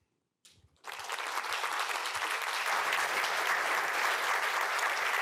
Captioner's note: applause